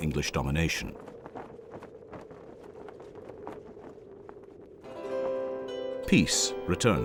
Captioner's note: flag flaps in the wind before atmospheric music plays in background